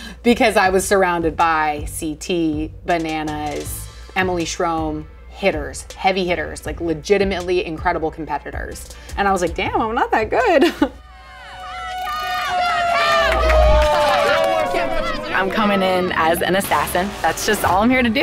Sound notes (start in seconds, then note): 10.8 laughing; 11.1 challengers yelling